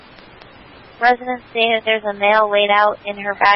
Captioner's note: radio traffic